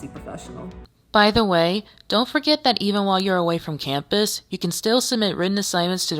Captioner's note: voiceover